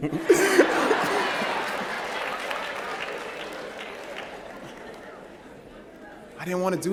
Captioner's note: laughter